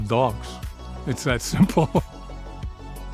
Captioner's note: chuckles